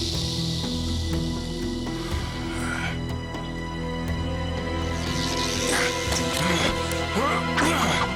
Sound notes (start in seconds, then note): 0.6 ominous music; 1.6 snake hissing